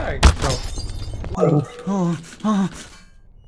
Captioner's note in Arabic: شخير